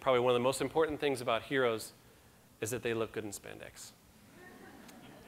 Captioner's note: audience laughter